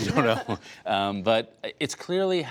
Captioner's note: laughter